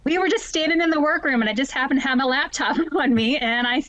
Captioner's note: chuckles